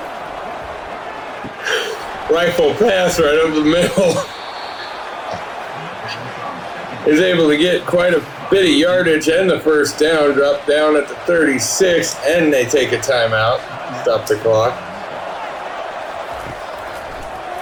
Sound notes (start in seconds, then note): 0.0 crowd Noises; 0.0 laugh; 4.8 laugh; 15.0 crowd Noises